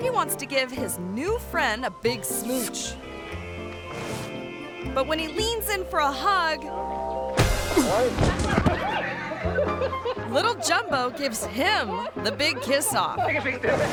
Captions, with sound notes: He wants to give his new friend a big smooch. But when he leans in for a hug, (tourists laughing) little Jumbo gives him the big kiss off.